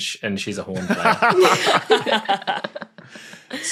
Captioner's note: others laughing